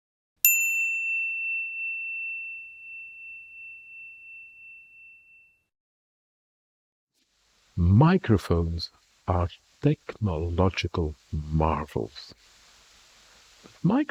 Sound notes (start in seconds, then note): 0.4 chime